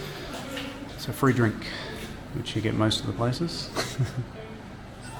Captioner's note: laughing